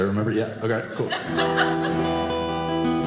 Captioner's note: audience laughing; guitar playing